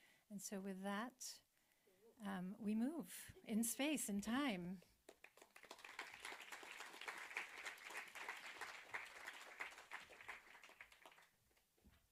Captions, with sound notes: And so with that, we move in space and time. (audience applauding)